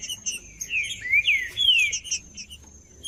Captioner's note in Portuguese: trinca ferro cantando